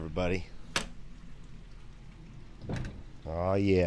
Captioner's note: door clicking